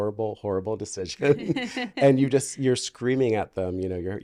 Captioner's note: laughing